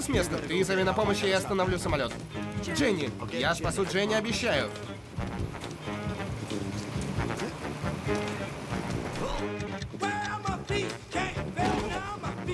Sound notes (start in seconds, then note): 9.0 grunts